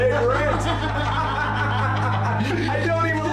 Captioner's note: laughter